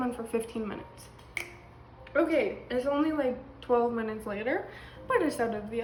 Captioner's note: snaps